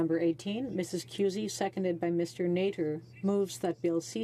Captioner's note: speaking French